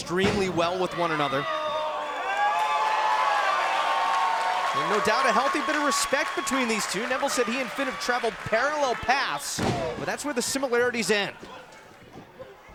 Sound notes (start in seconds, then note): 4.2 cheers & applause